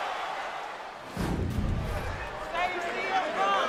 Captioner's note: whooshing sound plays